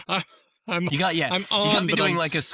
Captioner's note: laughs